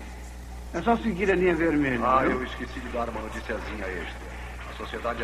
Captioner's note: man Over P.A